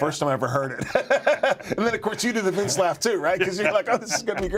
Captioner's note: laugh